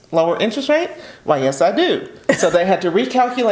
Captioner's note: chuckles